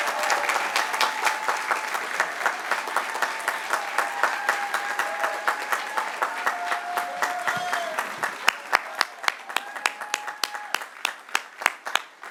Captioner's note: applause